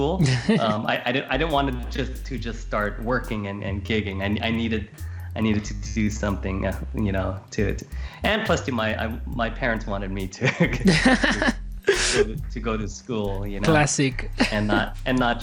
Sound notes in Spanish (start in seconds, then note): 13.2 Risas